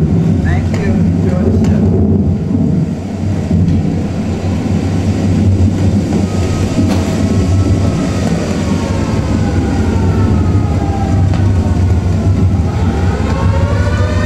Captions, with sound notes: Thank you. Enjoy the show. [THUNDER] [TORNADO SIRENS]